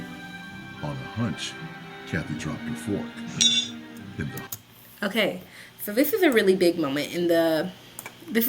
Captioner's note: fork sound effect